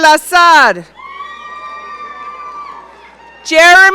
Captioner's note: audience cheering